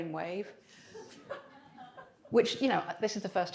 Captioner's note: audience laughs